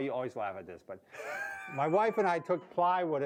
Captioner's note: laughing